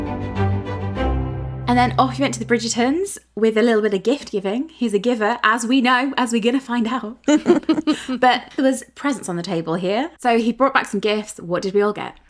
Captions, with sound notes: - And then off he went to the Bridgertons with a little bit of gift giving. He's a giver, as we know, as we're going to find out. (laughing) But there was presents on the table here. So he brought back some gifts. What did we all get?